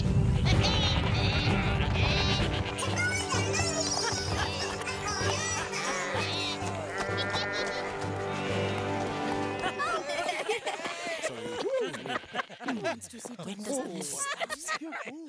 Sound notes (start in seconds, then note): 0.3 goats bleating; 4.2 goats bleating; 4.2 indistinct chattering; 9.5 crowd laughing; 9.5 indistinct chattering